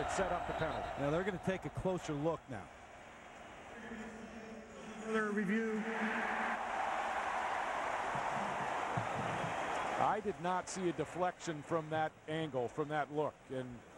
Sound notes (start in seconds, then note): 5.8 cheering, applause